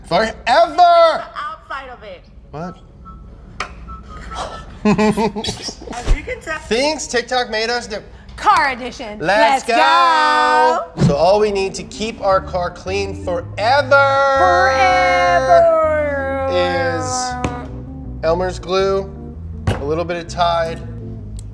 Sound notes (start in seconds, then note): 4.8 laugh